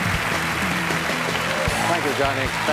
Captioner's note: cheers and applause